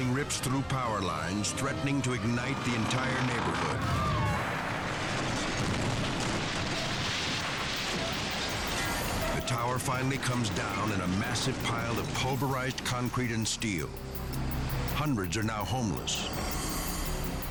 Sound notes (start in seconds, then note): 0.0 people yelling; 5.6 building crashing